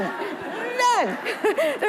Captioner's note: audience laughing